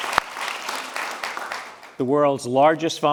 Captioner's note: applause